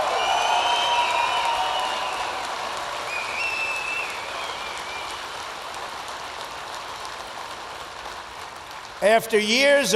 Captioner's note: applause